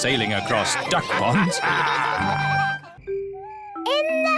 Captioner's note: all laughing